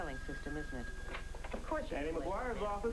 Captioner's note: phone rings